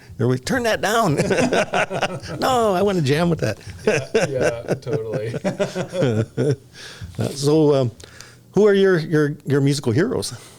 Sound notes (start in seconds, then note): 1.0 laughter